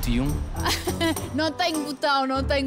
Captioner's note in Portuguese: risos